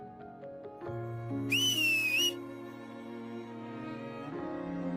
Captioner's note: whistle